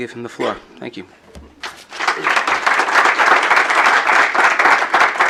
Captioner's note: applause